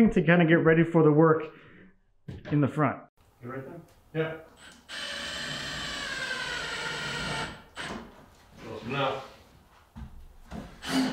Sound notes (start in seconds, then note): 4.8 drill squealing softly